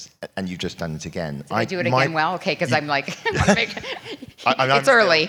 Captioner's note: laugh